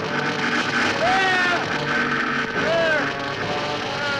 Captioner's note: loud screaming